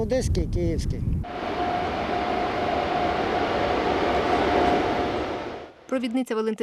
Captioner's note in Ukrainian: прибуває потяг